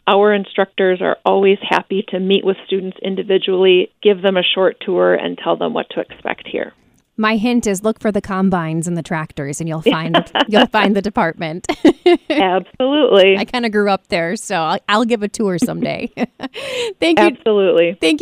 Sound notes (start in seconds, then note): 9.8 laugh; 15.6 laughs